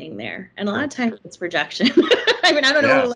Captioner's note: laughing